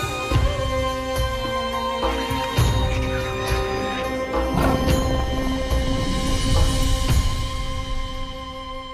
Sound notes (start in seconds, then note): 4.3 tiger growling